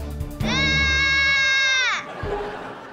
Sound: screaming

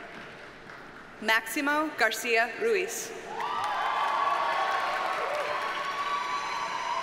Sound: audience cheers and applauds

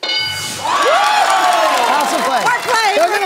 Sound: bell dings; cheers

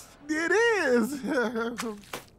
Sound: chuckles

